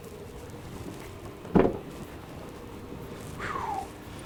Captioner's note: door clattering